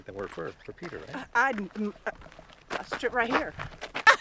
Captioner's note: stammering